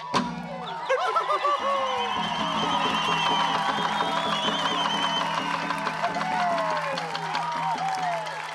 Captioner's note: cheering, applause